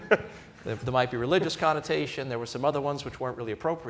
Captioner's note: laughter